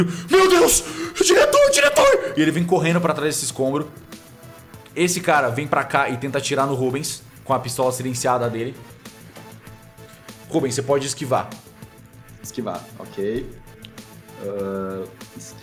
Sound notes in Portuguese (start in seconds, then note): none